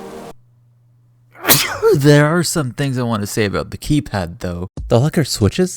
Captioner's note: sneeze